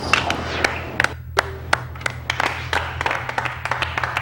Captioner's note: everyone claps